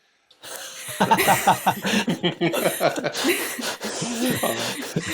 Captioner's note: laughter